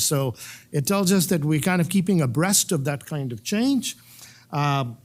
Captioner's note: none